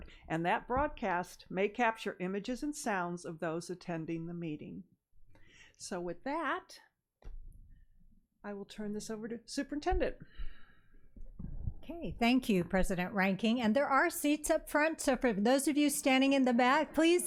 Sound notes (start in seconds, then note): none